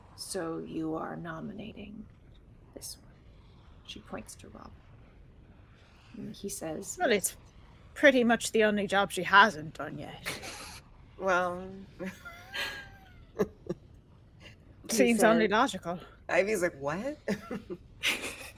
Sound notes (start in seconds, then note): 12.0 chuckles